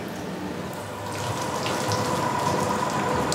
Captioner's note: splashing